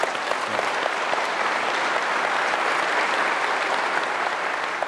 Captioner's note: applause